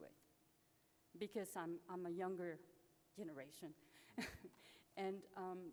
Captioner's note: laughs